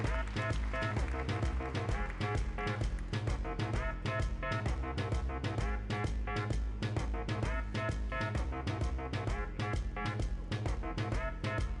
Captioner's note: applause